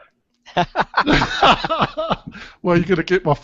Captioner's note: laughter